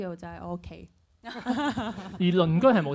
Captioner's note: laughs